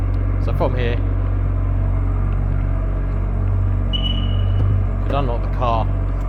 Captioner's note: beep - disarm